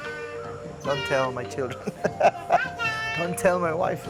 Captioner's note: laughs